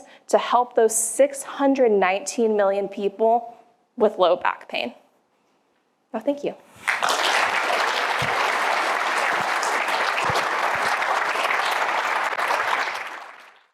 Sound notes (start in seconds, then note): 6.8 applause